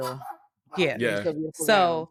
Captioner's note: dog barking